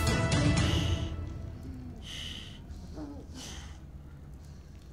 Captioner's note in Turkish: Nefes Sesleri